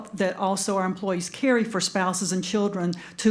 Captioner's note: none